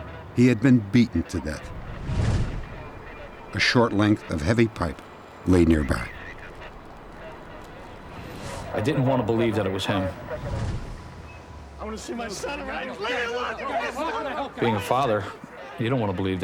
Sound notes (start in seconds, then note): 13.6 shouting